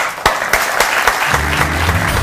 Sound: audience applauds; upbeat music

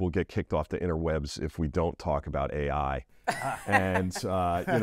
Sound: laugh

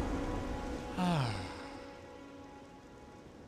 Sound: sigh of relief

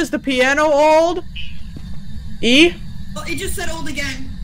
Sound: static box forms words

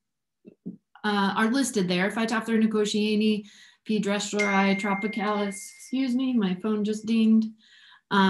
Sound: ringtone

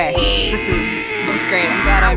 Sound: sounds of engraving

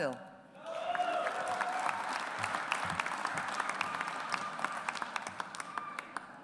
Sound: audience applauds

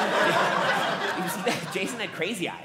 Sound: audience laughing

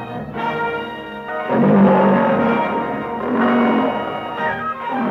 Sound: cats roaring

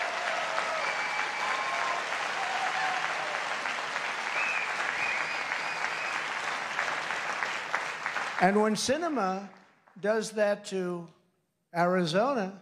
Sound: applause

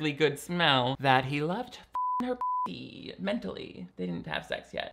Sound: beep

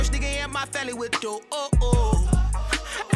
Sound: ooh ooohh

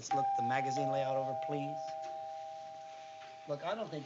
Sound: doorbell rings

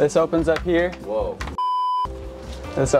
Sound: beep

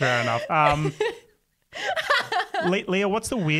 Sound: laughs

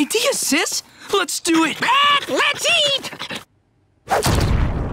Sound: squawking

